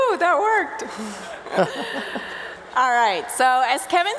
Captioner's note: laughter